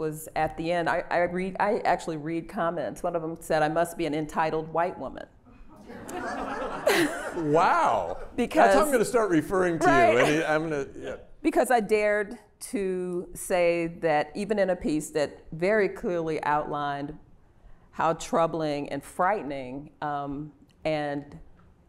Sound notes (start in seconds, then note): 5.7 laughter